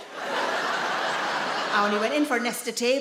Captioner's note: audience laughing